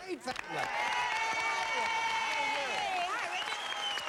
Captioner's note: applause